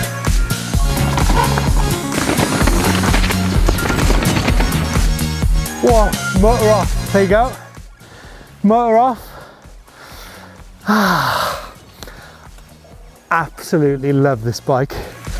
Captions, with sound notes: - Whoa, motor off, there you go. Motor off. [Deeply Exhales] Absolutely love this bike.